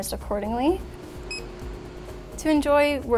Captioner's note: beeping sound